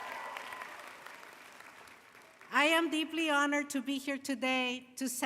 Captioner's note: applause